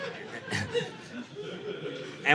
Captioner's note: audience laughing